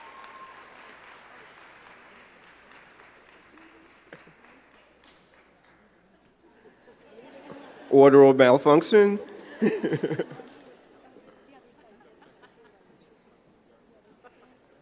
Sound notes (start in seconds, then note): 6.4 crowd giggling; 11.8 both chattering